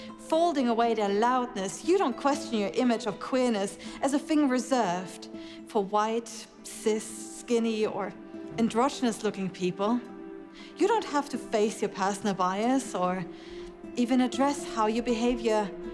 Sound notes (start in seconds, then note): none